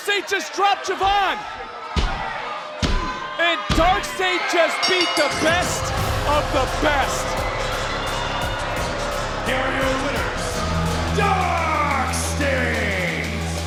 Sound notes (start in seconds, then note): 4.6 bell rings